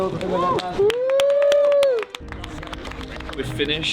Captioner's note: applause